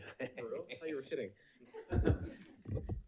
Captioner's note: person laughing